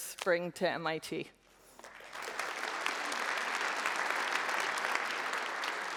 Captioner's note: applause